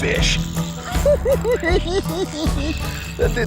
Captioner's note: laughs